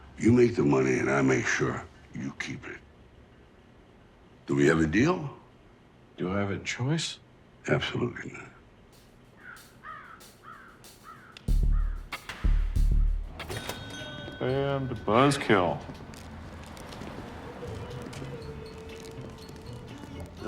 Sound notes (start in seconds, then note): 9.3 bird cawing; 13.3 door dings; 17.3 soft music